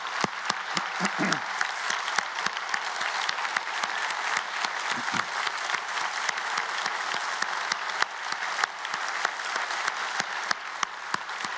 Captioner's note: applause